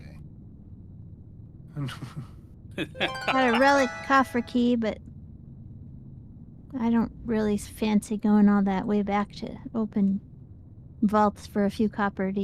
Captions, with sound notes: OK. [LAUGHS] Got a relic kafra key, but I don't really fancy going all that way back to open vaults for a few copper,